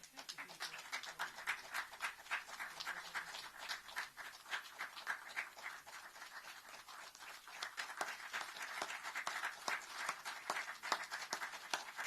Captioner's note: applause